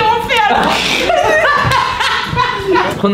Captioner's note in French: rires